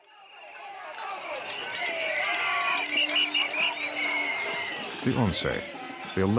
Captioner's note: people shouting